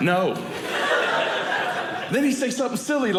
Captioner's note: audience laughing